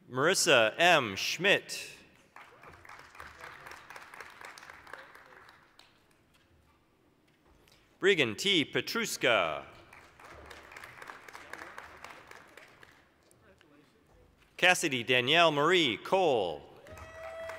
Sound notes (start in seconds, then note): 2.2 applause; 9.7 applause; 16.8 applause